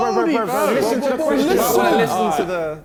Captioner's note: men exclaiming